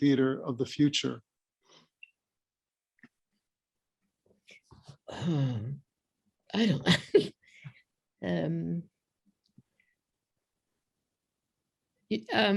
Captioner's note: laughter